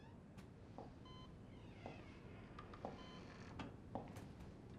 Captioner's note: heart monitor beeping